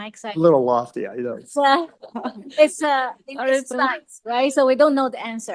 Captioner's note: laughs